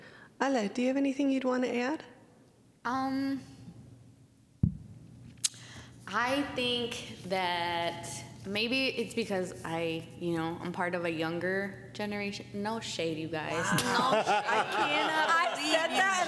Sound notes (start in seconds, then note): 13.5 laughter